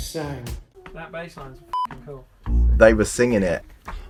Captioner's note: beep